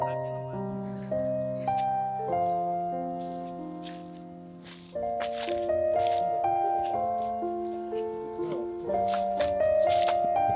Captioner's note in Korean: 알록달록 단풍과 낙엽 밟히는 소리가 막바지 가을을 충분히 느끼게 해주세요